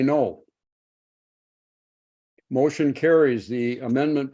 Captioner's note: silence